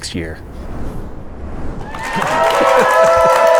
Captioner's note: audience applauding